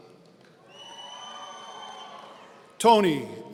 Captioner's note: audience cheering